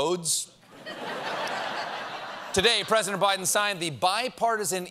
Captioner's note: laughter